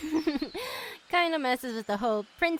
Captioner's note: chuckles